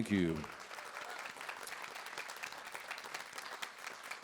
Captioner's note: audience applauds